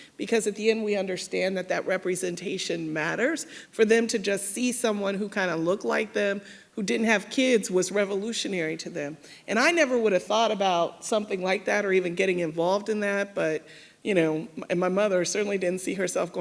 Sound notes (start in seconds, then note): none